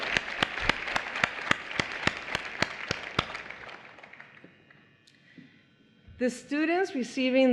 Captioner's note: applause